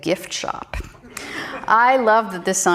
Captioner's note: audience laughing